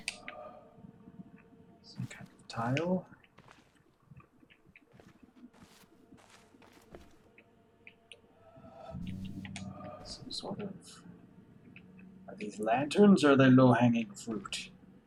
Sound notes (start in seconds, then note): none